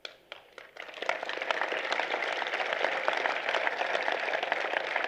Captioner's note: applause